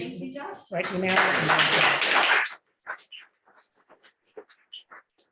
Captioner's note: applause